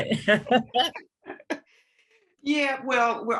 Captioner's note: laughs